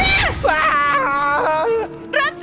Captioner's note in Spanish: Ramsey grita